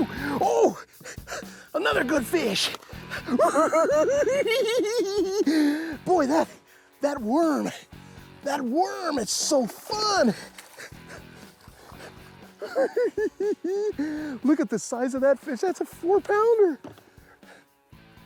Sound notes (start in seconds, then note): 2.9 giggles; 12.4 giggles